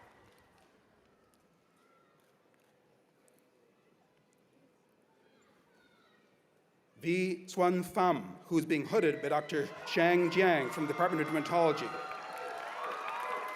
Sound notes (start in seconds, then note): 8.9 cheers and applause